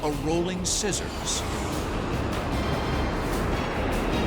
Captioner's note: jet engine noises